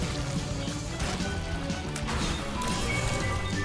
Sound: none

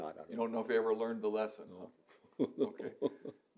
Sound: laughs

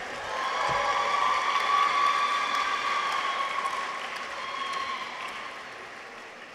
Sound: audience applauds; people cheer

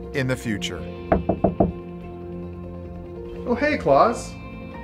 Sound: person knocking

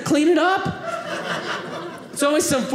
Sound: audience laughing

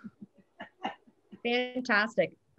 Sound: laughs

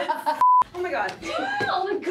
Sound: screen beep

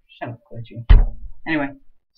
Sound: glitchy Slams on the Desk

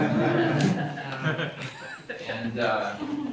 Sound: laughter

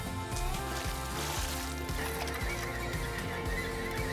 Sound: water splashing

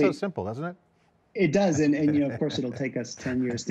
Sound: chuckles

